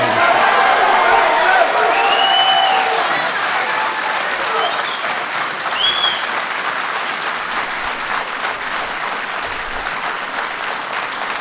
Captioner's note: applause